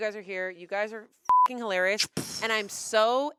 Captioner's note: beep